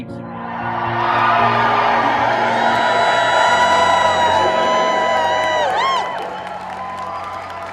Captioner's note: crowd cheers